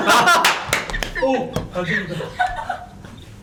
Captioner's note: stomping